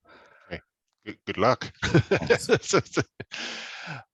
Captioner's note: laughs